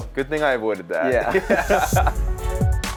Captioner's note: laughs